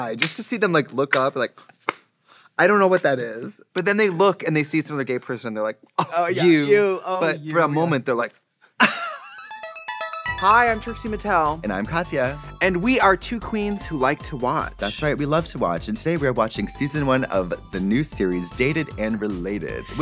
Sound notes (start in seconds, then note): 8.8 Katya wheezes; 9.5 musical flourish